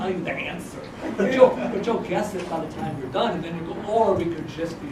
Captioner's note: laugh